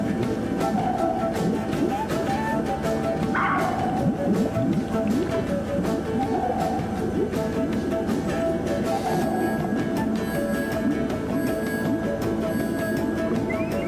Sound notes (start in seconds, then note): 0.2 water burbling softly; 3.3 dog barks loudly; 9.5 radar bleeping